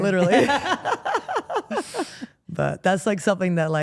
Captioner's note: Steph laughs